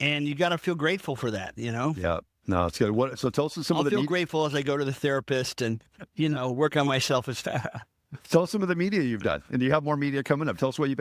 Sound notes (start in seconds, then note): 7.3 laughing